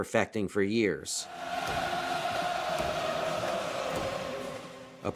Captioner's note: chanting